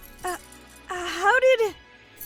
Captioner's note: handcuffs click open